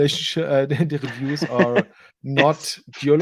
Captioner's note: laughing